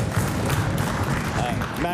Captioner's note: some Applause